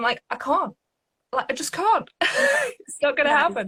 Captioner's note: laughs